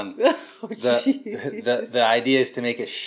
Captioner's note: laughs